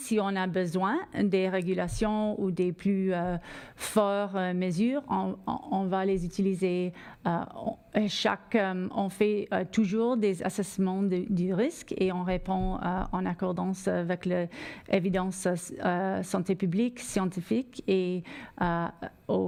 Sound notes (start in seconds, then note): 1.1 speaking French